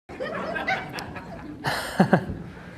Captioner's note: awkward audience laughter